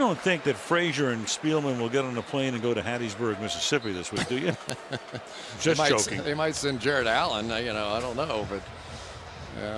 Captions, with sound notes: Now, you don't think that Frazier and Spielman will get on a plane and go to Hattiesburg, Mississippi this week, do you? [chuckles] Just joking. They might send Jared Allen, you know? I don't know.